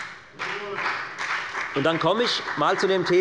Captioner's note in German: Beifall bei der FDP